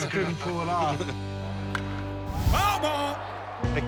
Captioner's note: laughter